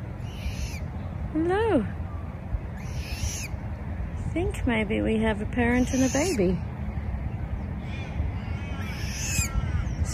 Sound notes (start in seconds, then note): 0.1 juvenile bird squeaks; 2.7 juvenile bird squeaks again; 8.4 more squeaking from juvenile bird